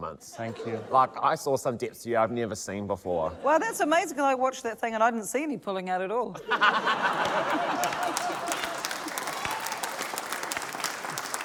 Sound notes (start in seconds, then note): 6.5 laughter, cheering, applause